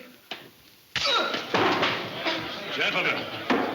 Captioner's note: man shouts; blow cracking